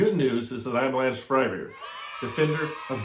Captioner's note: children cheering